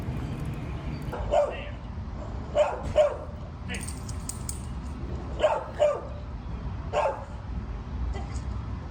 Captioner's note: dog barking